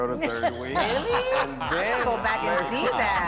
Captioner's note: laughter